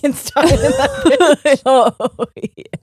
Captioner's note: both laughing